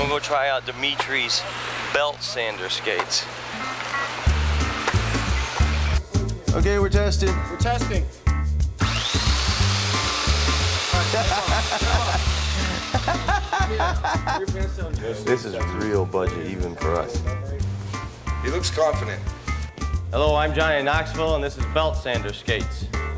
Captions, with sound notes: - I'm gonna go try out Dimitri's belt sander skates. (light music) - Okay, we're testing. - We're testing. (belt sanders whirring) (chuckling) - This is real budget even for us. - He looks confident. - Hello, I'm Johnny Knoxville and this is belt sander skates.